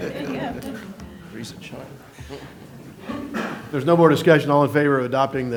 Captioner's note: laughter